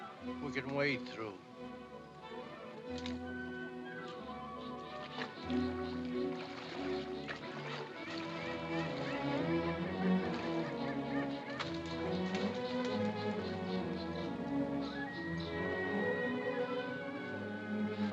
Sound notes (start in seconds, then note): 0.0 soft dramatic music; 5.2 soft dramatic music; 5.2 water softly splashing; 9.6 soft dramatic music